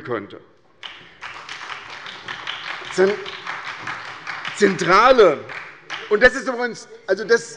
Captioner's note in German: Beifall bei Abgeordneten der SPD